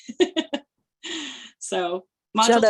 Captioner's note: laughter